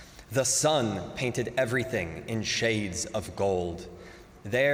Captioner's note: none